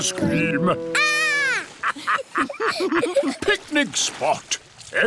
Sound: laughter

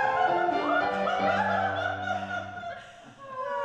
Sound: Miss Todd and Laetia laugh

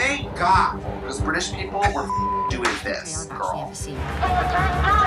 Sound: beep

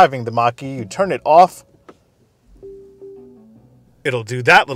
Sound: shut down ding

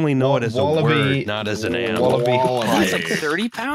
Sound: keyboard tapping

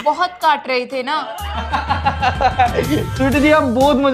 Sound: laughing

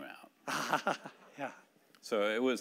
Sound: laughing

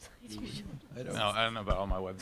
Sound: laughs

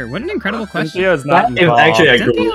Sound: overlapping chatter

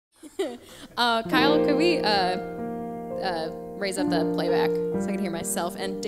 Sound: laughs

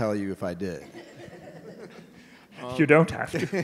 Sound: audience laughing

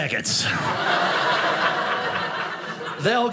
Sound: audience laughing

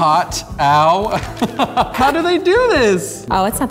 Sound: laughter

